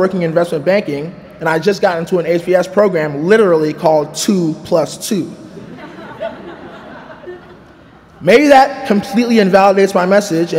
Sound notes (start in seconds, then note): 5.6 chuckling